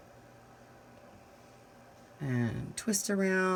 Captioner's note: silence